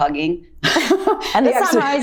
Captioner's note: laughs